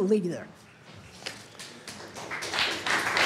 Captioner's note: applause